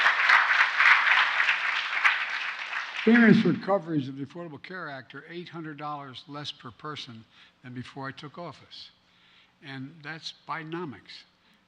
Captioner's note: applause